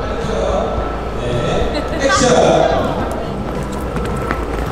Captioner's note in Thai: หลุดขำ